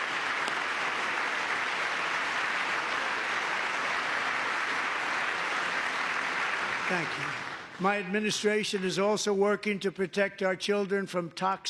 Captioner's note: applause